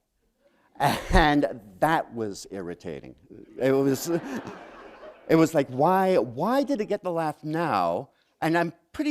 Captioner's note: laughter